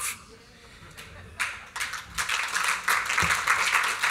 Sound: applause

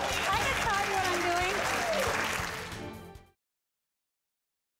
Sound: applause

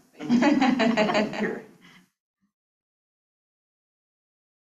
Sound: students laughs

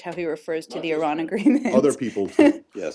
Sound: laughter

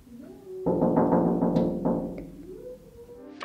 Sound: knocking

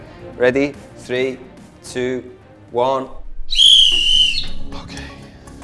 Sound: whistle blows

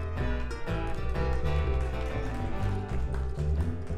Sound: audience applauding; bass music

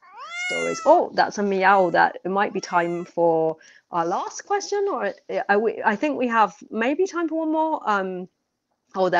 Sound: miaowing

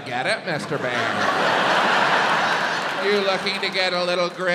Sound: audience laughs

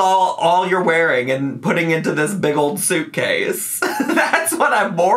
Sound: laughs

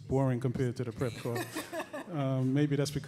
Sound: laughing

